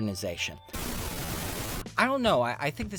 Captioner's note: static discharge